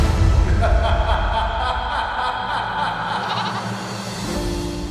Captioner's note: laughing